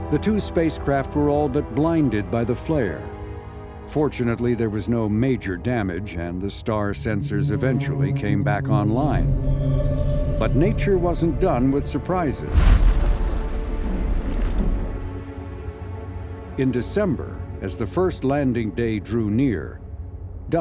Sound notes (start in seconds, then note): 9.3 soft music; 12.3 loud blast